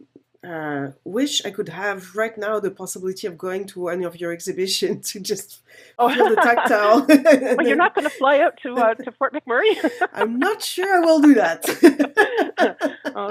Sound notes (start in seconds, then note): 7.0 laughs; 9.8 laughs; 12.5 laughs